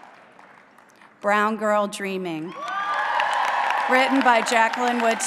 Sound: applause

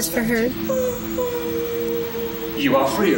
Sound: crying

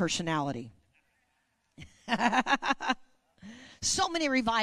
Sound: laughing

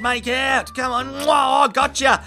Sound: turtle Kissy Noise

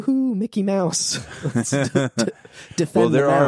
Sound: laughing

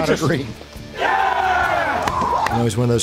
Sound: team cheers

